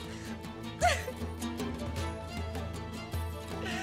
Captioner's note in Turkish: Ağlama sesi; Müzik - Gerilim